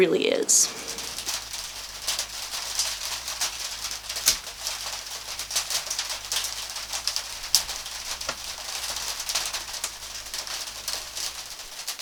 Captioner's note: rain falling